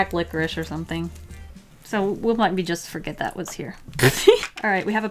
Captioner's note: laughs